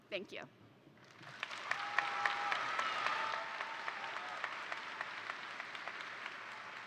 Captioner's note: attendees applaud; attendees cheer